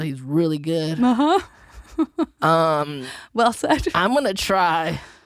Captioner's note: chuckles